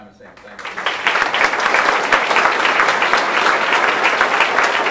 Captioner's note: audience applauding